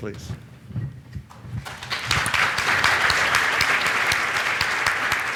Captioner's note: applause